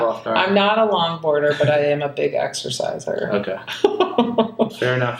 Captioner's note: laughs